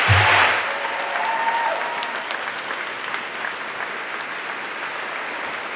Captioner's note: audience applauding